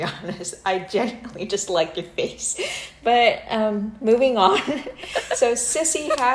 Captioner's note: heheh